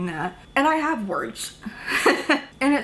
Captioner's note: chuckle